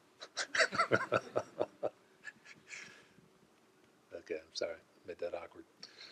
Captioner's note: laughs